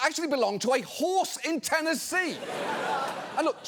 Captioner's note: studio audience laughs